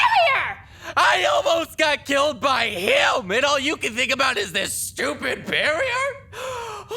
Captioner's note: sobs